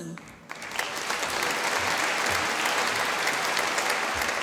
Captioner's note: applause